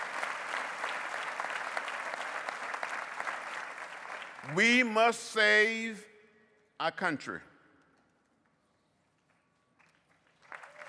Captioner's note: applause